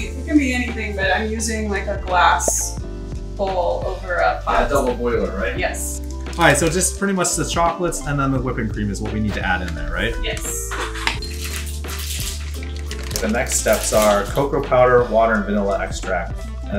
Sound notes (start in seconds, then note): 2.5 bubble pops; 11.0 chocolate clinks into bowl